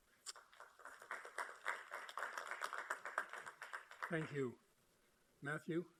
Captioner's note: applauding